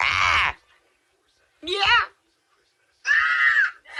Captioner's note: yells